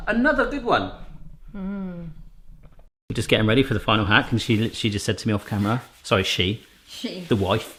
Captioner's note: none